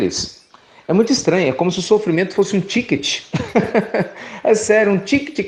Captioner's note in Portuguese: Risos